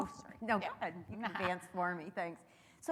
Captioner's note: laughs